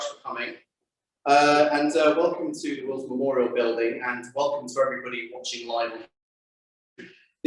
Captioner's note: on Zoom